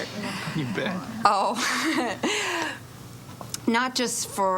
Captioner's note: chuckles